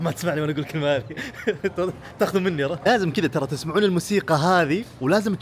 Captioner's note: laughs